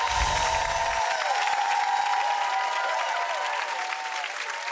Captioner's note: audience clapping; gentle chime ringing